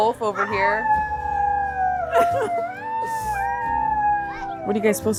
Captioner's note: children howl